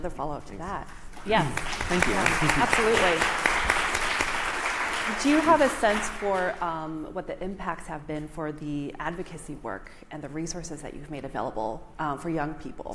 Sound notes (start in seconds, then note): 4.6 applause